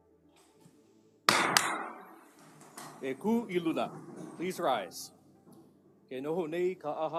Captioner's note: gavel bangs twice